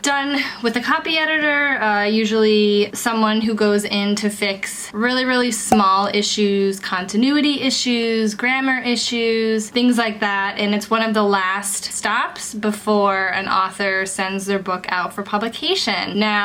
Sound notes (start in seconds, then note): 5.7 bubble popping